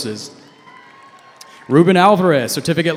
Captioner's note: cheering